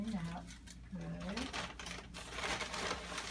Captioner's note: rustling in bag